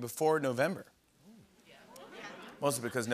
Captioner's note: audience murmurs